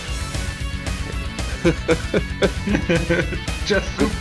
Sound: laughter

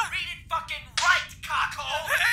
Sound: slap

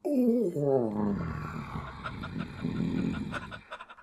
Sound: frustrated groans

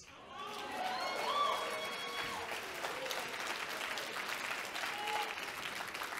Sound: audience cheering and clapping

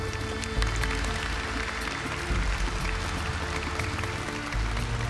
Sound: audience applauding

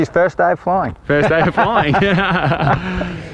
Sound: both laugh

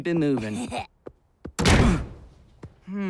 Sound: slams, grunts

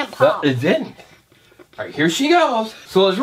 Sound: voiceover

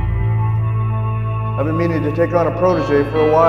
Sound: voice-over

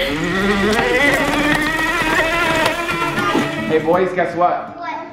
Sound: laughing; engine revving

